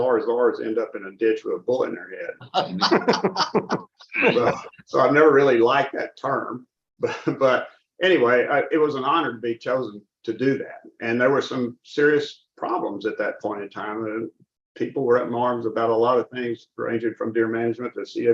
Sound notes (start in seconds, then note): 7.0 laughter